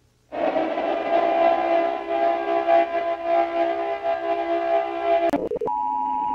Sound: siren

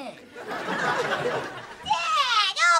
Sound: laughing

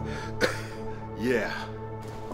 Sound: Charles coughing

